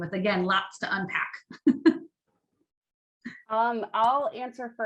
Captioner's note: chuckles